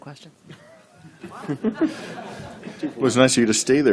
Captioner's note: laughter